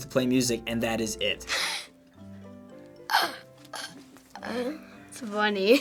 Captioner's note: giggles